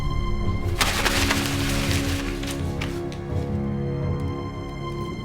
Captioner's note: paper scrunching